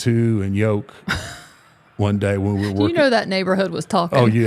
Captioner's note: laughing